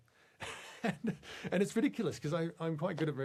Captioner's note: laughs